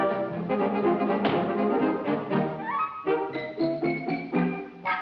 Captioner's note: foot stomps; gentle playful music